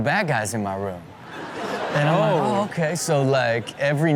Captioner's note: audience laughs